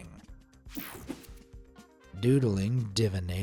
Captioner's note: screen whooshing